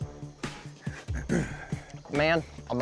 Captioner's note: clears throat